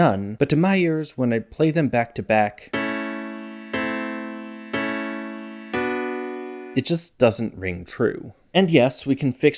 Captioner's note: bang